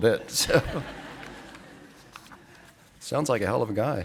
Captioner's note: audience laughing